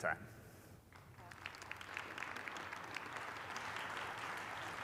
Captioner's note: applause